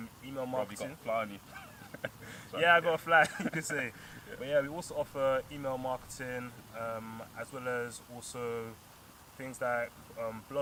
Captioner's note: laughter